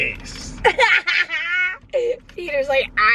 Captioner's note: laughter